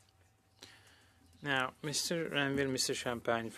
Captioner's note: speaking French